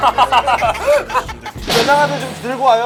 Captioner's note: laughing